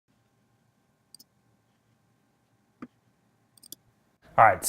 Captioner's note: clicking